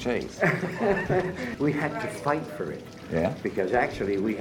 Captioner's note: laughs